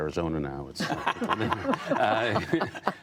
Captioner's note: laughter